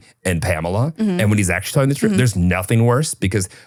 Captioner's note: laughing